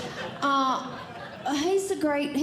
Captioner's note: audience Laughing